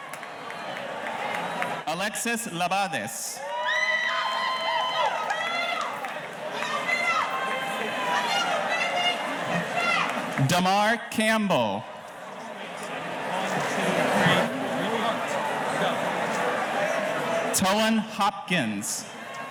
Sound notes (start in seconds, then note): 3.3 audience cheering; 5.9 audience member hollers; 15.9 murmurs